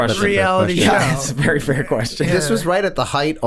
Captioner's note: chuckles